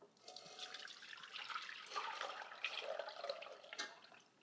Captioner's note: liquid ripples